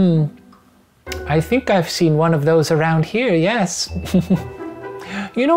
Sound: laughs

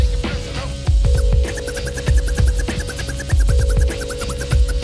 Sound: record scrubbing

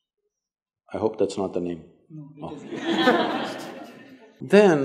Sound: laughter

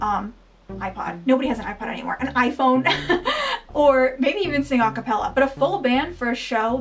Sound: laughing

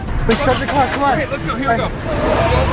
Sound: engine starts

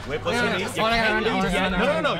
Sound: chatter

